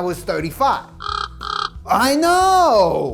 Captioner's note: bird chipping